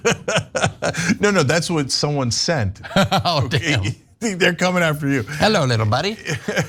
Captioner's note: laugh